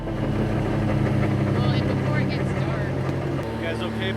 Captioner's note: engine rumbles